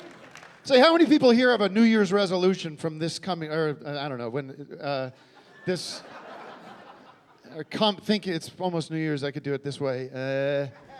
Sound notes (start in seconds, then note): 6.1 stammering